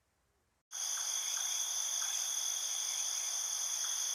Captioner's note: crickets chirping